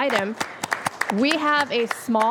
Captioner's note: applause